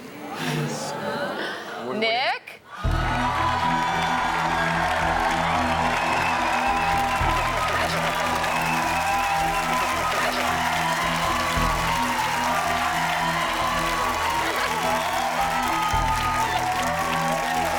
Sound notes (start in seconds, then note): 3.0 audience cheers and applauds